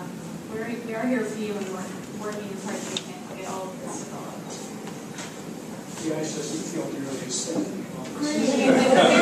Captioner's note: laugh